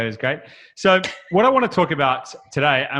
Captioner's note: laughs